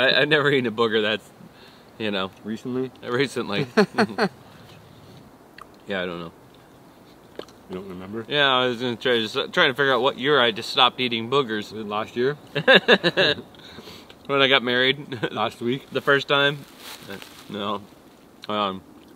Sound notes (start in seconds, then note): 3.5 laughing; 12.5 laughing